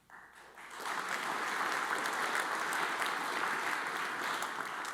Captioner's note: audience applauds